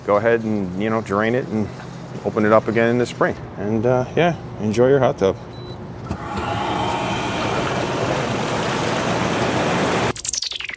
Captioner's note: jets bubbling